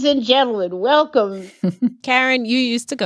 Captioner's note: laughter